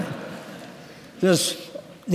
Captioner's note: laughter